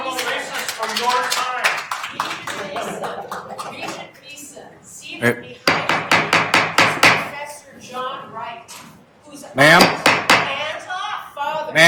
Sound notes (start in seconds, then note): 5.6 gavel banging